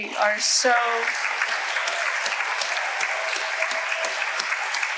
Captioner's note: audience applauding